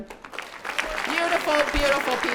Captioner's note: audience clapping